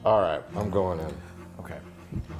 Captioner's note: gasping